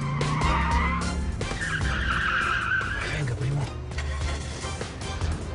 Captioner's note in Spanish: Chirrido de neumáticos